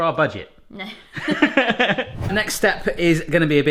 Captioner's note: laughs